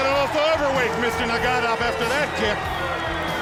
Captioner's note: bell ringing